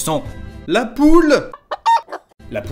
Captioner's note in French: caquètement